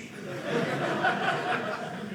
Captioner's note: audience laughing